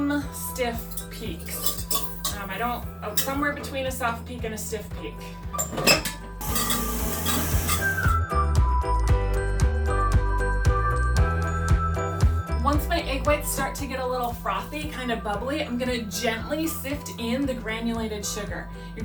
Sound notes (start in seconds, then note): 6.4 dough mixer whirring; 6.6 soft gentle music